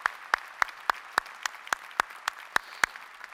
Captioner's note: applause